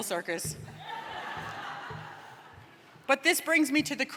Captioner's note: laughter